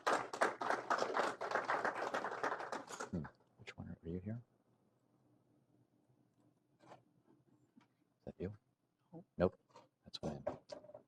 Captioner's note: applause